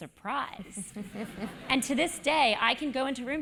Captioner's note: laugh